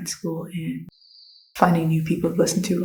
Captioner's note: cricket 🦗 sfx